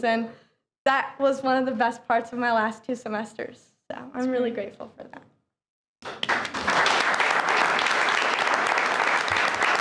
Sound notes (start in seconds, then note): 6.0 all clapping